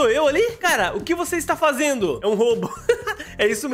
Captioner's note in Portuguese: risos